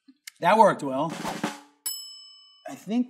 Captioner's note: drum rolls; bell dings